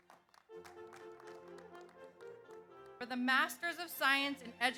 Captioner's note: audience applauds